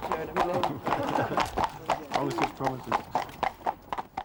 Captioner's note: chuckles